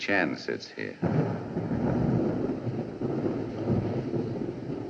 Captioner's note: thunder Rumbles